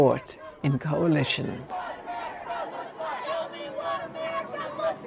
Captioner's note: crowd